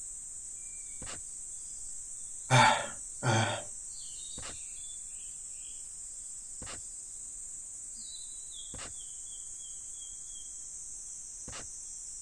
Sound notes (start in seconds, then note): 2.5 breathing???